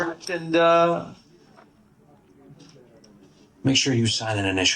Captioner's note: background office noise